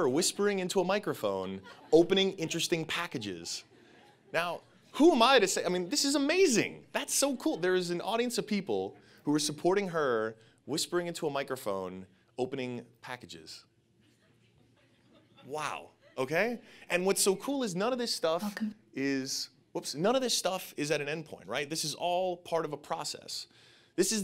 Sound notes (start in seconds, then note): 13.6 audience laughing